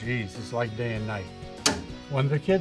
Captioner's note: breaker switch clicking